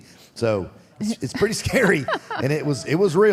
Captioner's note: Michelle laughs